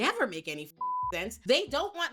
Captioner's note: beep